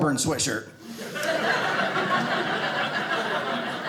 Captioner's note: audience laughing